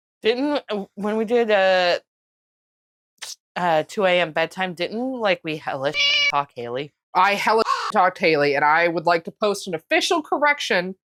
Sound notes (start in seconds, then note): 5.9 meow; 7.6 caw